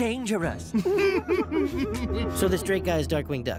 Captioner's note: both snicker